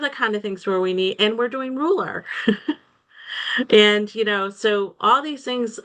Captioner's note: laughs